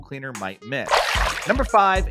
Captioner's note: water splashing